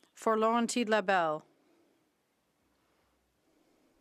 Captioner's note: speaking French